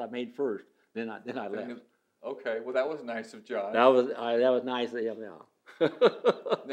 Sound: laughs

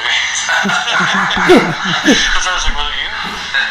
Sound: group laughing

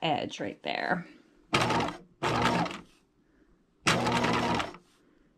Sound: sewing machine clunking

